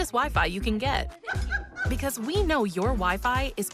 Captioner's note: laughter